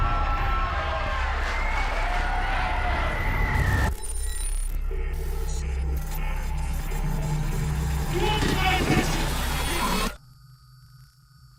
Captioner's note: crowd cheering